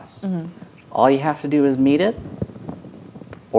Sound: none

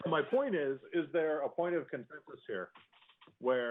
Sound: laughter

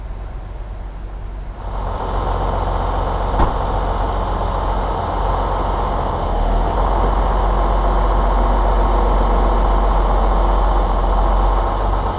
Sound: engine Noise

